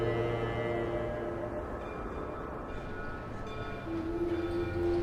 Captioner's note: birds calling, bell clanging